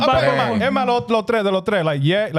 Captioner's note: speaking Spanish